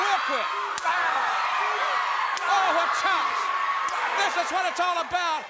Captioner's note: blows thudding